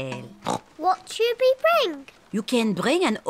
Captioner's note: oinks